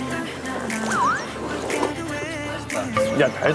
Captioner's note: chomp